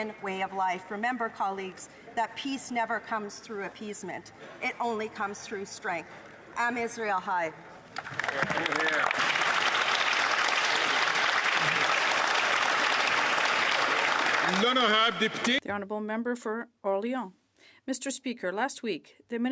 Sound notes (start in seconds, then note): 12.9 some Applause